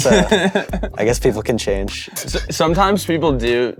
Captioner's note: bandmates laugh